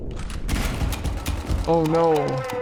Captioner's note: gunshots